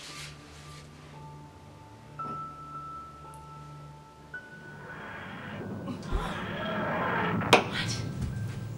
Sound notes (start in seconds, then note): 4.5 TARDIS engines